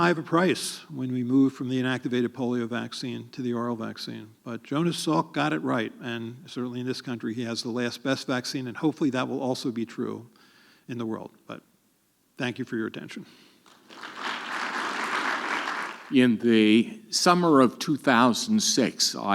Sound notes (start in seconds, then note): 13.6 audience clapping